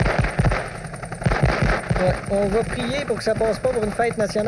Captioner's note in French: Détonations